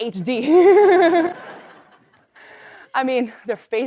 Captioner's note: laugh